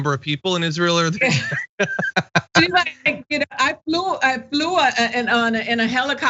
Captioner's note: laugh